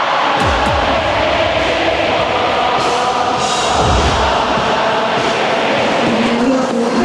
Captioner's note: the backstage area is buzzing with the sounds of the crowd